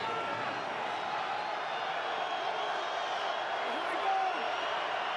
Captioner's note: cheers